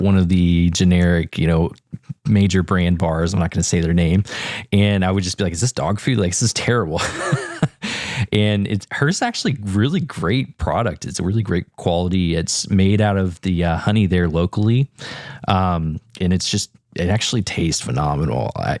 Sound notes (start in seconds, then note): 7.0 laugh